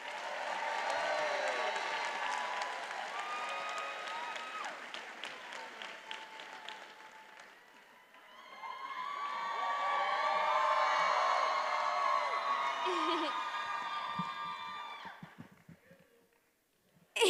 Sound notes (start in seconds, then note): 0.2 attendees applauding and cheering; 8.9 attendees cheering; 12.8 giggling